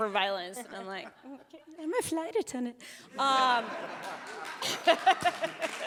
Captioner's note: chuckles